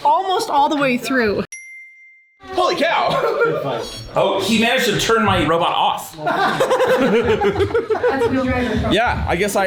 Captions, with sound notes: Almost all the way through. (arrow chiming) - Holy cow. Oh, he managed to turn my robot off. (everyone laughing) - That's wheel drive. - Yeah,